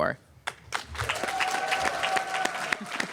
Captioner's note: applause